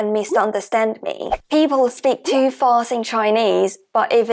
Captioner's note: Mandarin